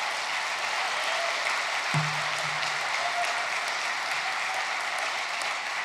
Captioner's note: applause